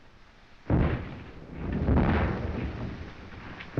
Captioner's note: bombs continue exploding